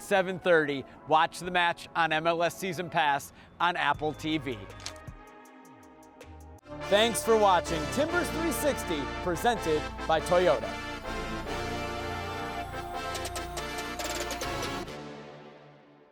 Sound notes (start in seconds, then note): 4.7 camera click; 10.1 upbeat synth music